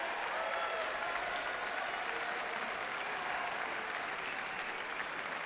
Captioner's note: audience cheers and applauds